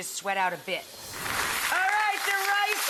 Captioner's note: audience applauding